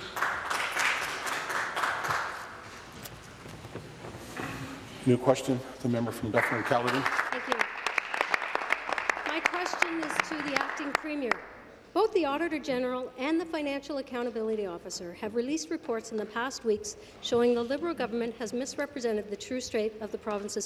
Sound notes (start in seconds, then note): 12.3 applause